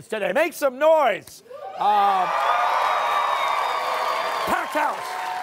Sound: cheers and applause

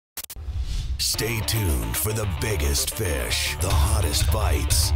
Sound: voiceover

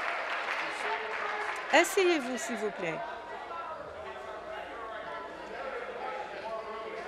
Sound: applause

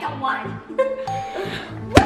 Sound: laughter

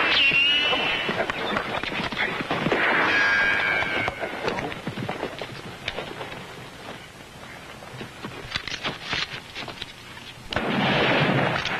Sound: gunfire

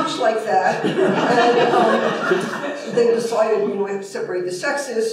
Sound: laughter

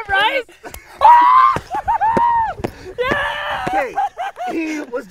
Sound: cheers

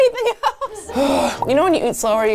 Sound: sighing

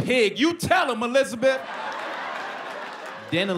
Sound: laughter, applause

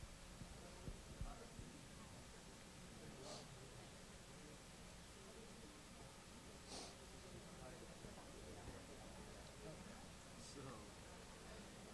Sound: chatter

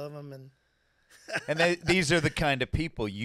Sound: laughing

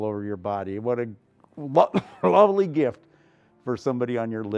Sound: cough

